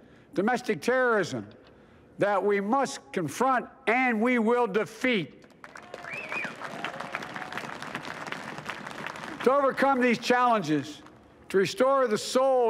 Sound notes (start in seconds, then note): 5.4 applause